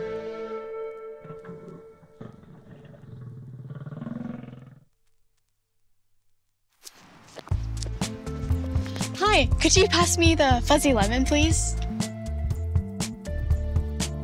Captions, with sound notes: [growling sound] Hi, could you pass me the fuzzy lemon please?